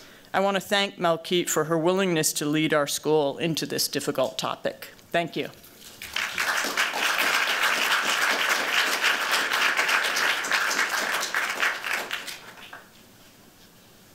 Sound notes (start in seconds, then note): 5.9 applause